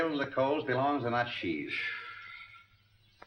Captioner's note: Markham exhales